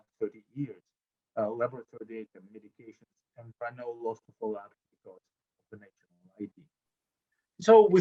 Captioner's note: audio drop